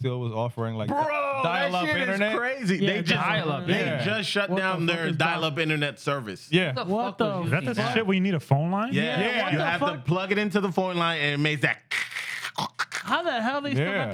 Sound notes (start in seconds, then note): 11.9 imitates Phone